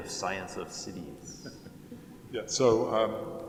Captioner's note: laughs